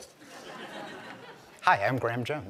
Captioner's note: laughter